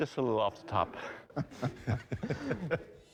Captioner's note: laughter